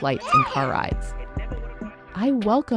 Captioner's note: toddler squealing